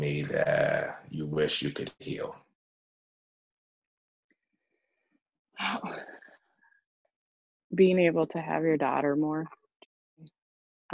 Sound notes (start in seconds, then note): 5.5 sighs